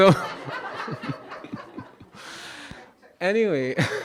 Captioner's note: audience laughing